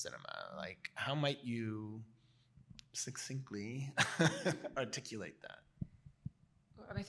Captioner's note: chuckles